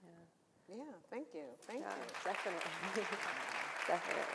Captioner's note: audience cheering